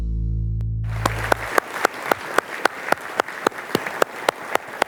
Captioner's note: audience applauds